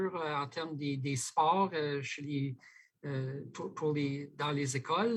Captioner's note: speaking French